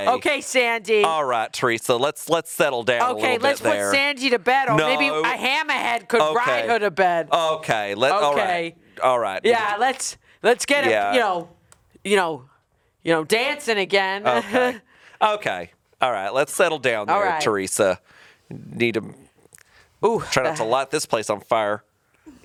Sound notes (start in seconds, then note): 14.2 chuckling